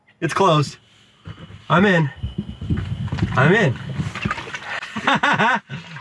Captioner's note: trunk lid whirs